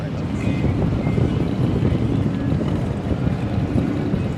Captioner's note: engine rumbles